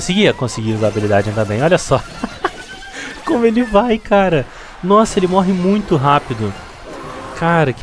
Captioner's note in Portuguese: risadas